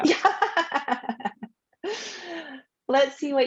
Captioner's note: laughing